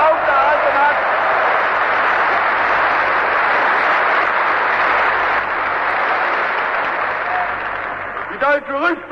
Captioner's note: applause